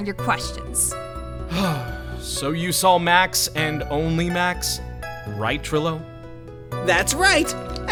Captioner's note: sigh